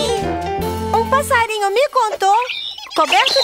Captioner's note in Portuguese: Som de passaro